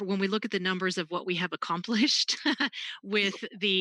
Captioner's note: laughs